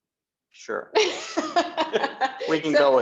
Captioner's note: laughing